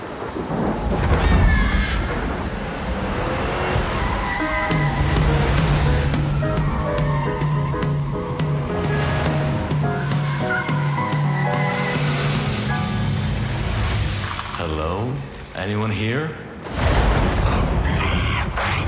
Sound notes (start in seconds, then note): 0.0 dramatic sound; 5.5 car skidding; 11.9 brakes screeching